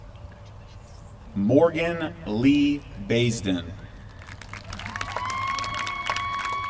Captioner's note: applause